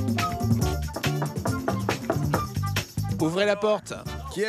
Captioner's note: knocks